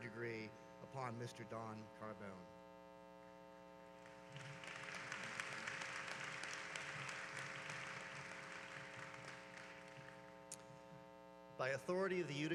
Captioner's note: applause